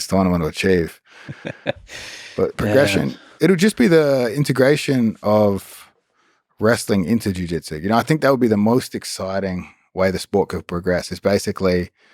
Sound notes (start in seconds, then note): 1.2 Lex laughs